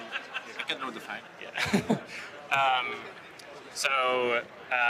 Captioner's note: speaks faintly